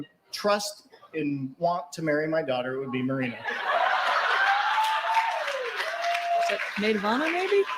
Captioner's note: laughter & cheering